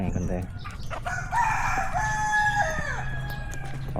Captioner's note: chicken crowing